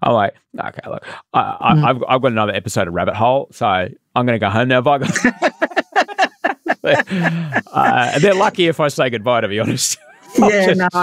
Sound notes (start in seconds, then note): 5.0 laughing